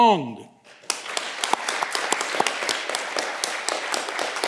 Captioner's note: audience clapping